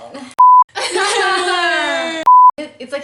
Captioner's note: sobs